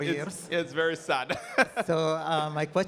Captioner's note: laughing